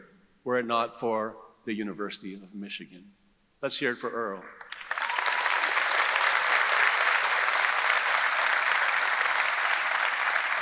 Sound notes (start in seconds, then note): 4.6 audience applauding; 4.7 audience cheering